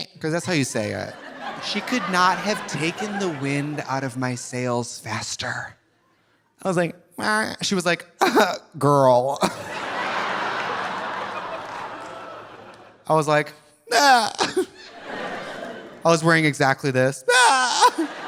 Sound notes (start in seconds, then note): 1.0 audience laughing; 8.7 scoffs; 9.4 audience laughing; 13.6 whimpers; 17.4 whimpers; 17.8 audience laughing